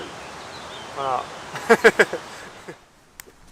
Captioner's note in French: rires